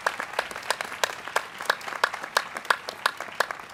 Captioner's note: applause